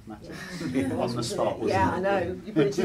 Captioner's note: laughs